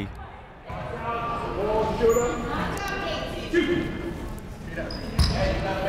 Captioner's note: people shouting in the crowd